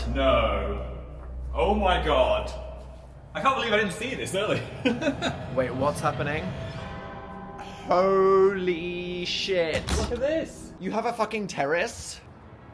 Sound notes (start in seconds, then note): 4.5 laughs; 7.2 bell dings